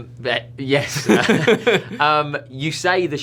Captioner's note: laughter